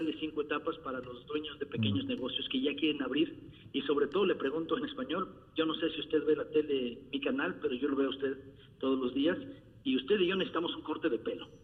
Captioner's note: repeating question in spanish